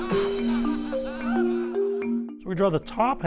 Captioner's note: crowd laughing